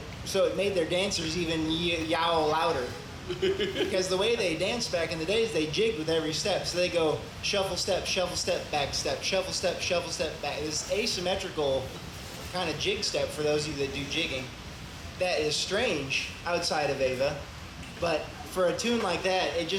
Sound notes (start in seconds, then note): 3.2 laughs